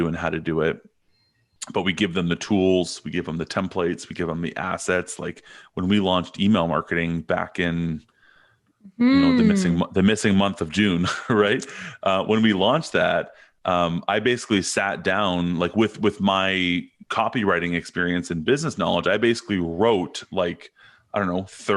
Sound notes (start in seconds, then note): 11.0 chuckles